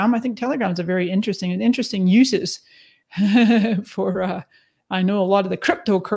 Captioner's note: laughs